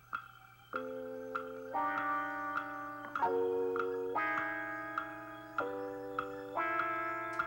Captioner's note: clock ticking